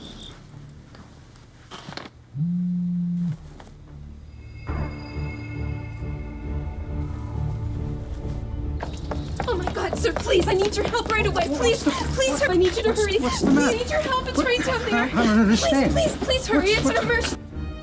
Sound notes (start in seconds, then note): 2.3 cell phone buzzing; 4.9 tense music